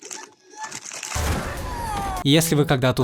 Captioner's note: sounds of pain